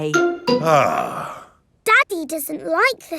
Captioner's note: sighs